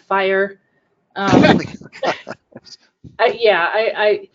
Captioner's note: laughing